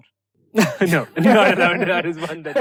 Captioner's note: laughter